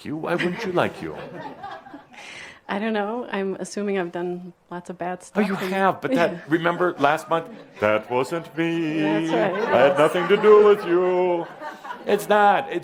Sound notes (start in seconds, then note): 1.4 some chuckles; 10.2 sings